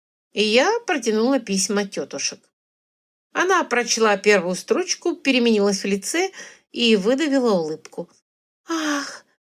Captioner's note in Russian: вздыхает